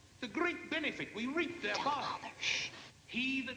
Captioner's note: whispers